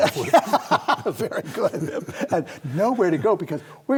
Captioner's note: both laugh